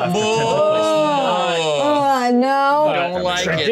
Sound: all exclaiming

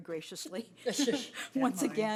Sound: laughing

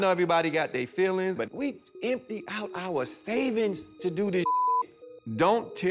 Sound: beep

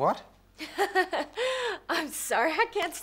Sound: Jet laughs

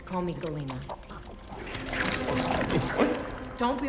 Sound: creature trilling

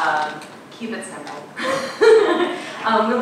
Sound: laughing

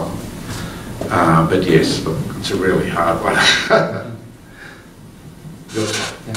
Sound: laughs

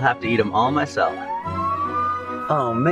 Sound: siren blaring

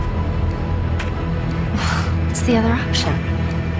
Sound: sigh

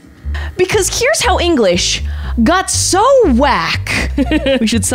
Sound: laughs

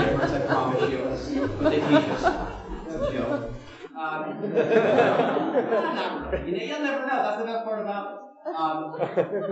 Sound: laughter

